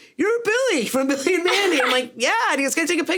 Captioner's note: Sarah laughs